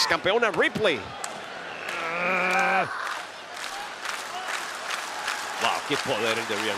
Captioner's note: applause